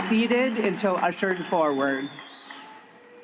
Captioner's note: applause